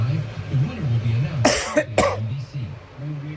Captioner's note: continues playing; coughs; continues playing